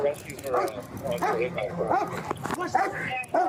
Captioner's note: radio chatter